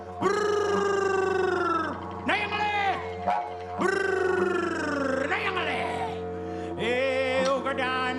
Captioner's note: man vocalises